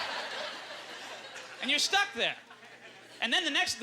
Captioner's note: audience laughter